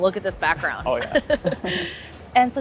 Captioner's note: both laugh